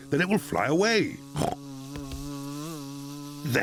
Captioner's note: snorts